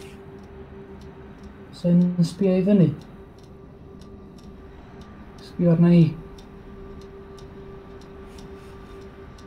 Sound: high, eerie drone. clock ticks

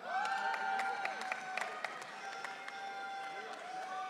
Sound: audience cheering

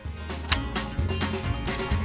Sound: gun click; upbeat music

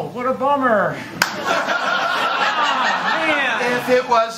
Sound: laughter

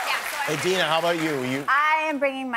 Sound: cheers and applause

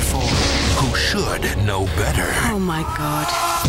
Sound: voiceover

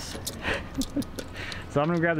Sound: laughing

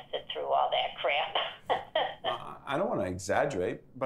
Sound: laughs

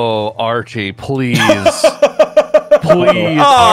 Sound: laugher

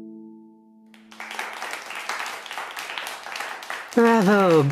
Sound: A genteel round of applause, suggesting a small, intimate audience

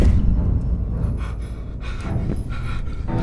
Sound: Thomas panting

